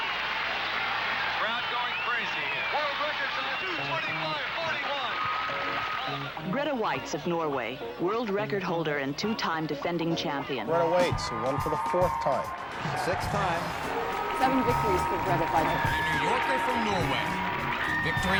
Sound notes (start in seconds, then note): 4.6 woman over TV; 9.5 man over TV; 12.8 woman over TV; 14.7 man over TV